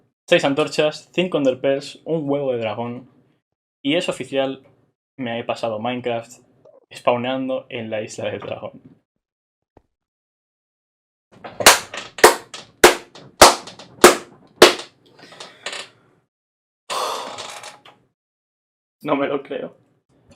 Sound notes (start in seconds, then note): 11.2 claps; 11.2 sighs